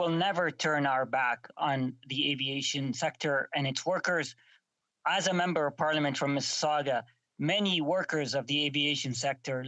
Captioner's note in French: voix de l'interprète